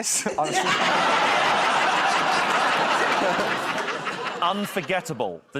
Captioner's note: laughter